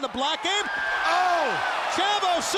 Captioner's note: audience cheers